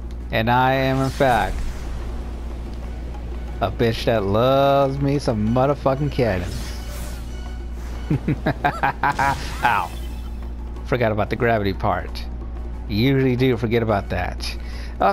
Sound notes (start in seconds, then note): 8.0 maniacal aughter